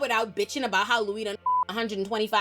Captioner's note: beep